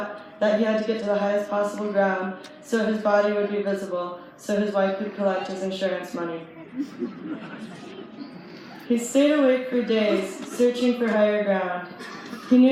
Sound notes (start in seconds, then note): 6.5 light laughter